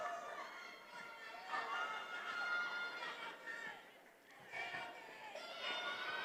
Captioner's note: attendees applauding and cheering